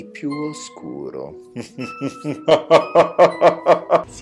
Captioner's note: evil laugh